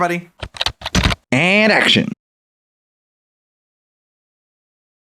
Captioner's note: typing